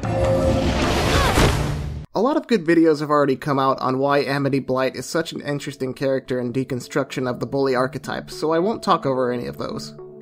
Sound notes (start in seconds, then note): 0.5 shouts